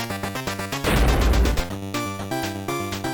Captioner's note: thud